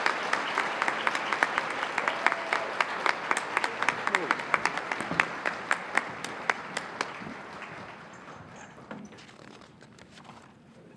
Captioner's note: applause